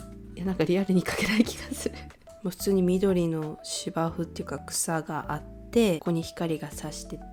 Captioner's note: laughs